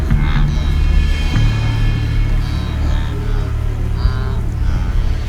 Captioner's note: wildebeests grunting